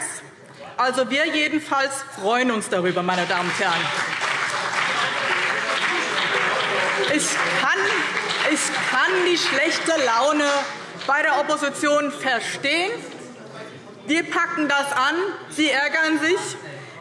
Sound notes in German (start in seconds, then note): 3.2 Beifall BÜNDNIS 90/DIE GRÜNEN und vereinzelt CDU - Zurufe SPD